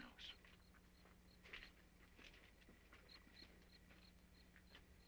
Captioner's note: insects chirping